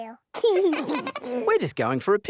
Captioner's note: both laugh